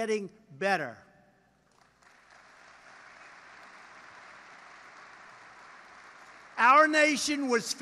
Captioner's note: applause